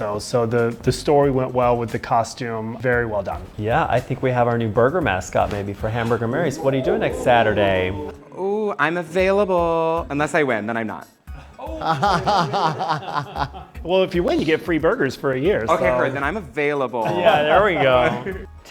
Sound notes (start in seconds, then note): 11.6 Ruthie laughing